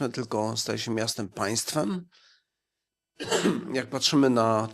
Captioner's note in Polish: kaszel